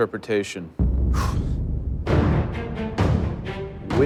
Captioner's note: exhales